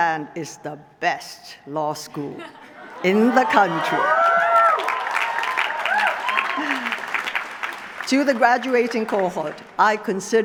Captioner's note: laughter; applause